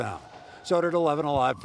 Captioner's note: explosion